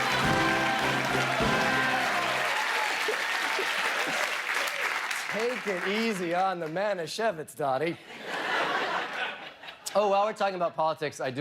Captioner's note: cheers and applause